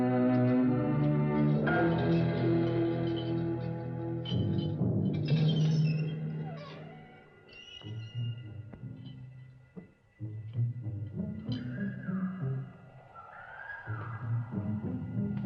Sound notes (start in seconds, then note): 5.3 door squeaking; 7.5 suspenseful orchestral music